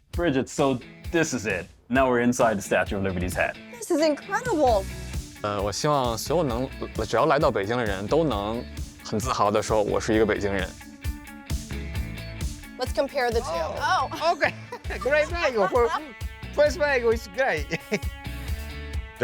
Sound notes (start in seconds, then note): 5.5 speaking foreign language; 11.7 upbeat music; 13.4 laughs; 17.8 upbeat music